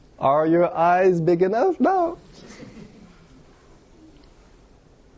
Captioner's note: laughter